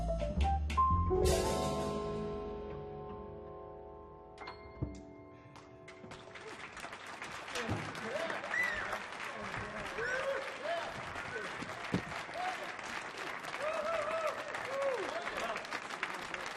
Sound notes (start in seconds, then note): 6.8 audience clapping; 8.7 audience cheering